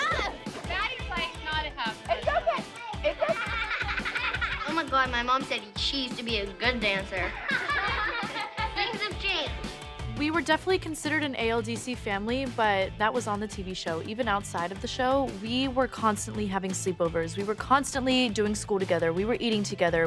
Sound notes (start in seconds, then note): 7.1 girls laughing